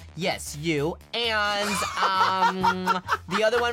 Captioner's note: laughs